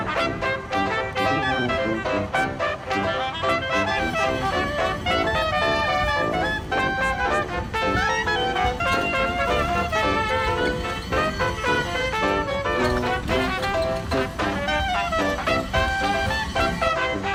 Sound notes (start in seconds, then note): 4.2 cable sounds against metal objects